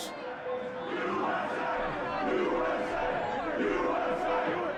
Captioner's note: crowd